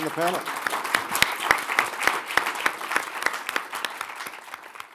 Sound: audience applause

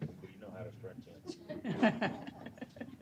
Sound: laughter

